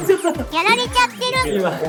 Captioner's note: laughs